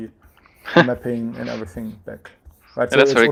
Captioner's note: chuckling